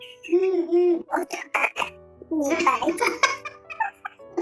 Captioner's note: laughs; laughs